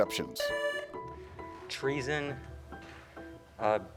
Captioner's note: tone sounds